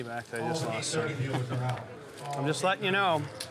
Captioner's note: laughs